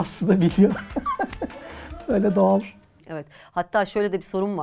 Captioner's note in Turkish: kahkaha